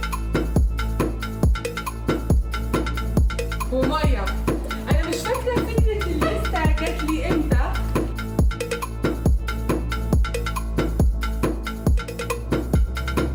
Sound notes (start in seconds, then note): 4.1 presenter speaking in foreign language; 8.9 upbeat music continues